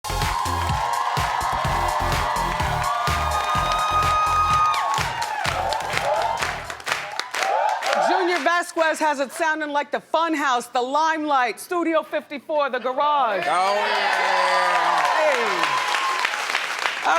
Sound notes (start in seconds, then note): 0.6 upbeat rock music; 2.3 audience cheering; 7.4 audience whooping; 13.4 audience applauding